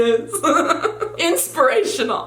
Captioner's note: giggles